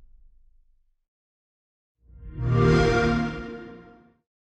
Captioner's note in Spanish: Sonido Xbox